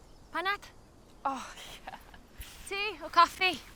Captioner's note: chuckles